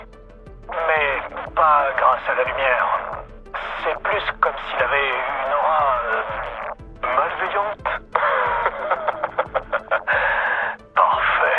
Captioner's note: laughs